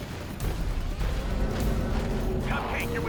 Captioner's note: gunfire